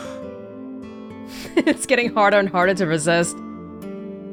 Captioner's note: chuckles